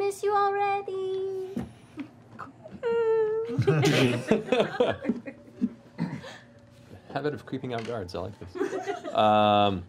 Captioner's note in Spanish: puerta chirriando